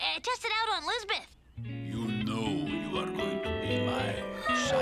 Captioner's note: deep voice; Lizbeth sighing dreamily